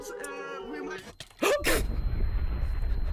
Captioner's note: shocked noises